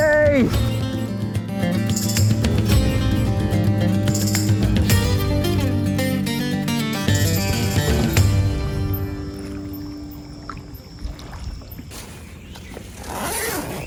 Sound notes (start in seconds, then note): 7.3 water splashing